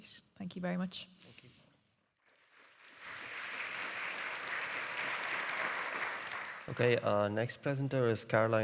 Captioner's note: audience applauding